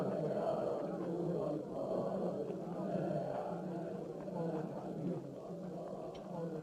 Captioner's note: crowd chanting in Arabic